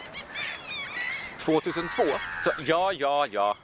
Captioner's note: bird croaks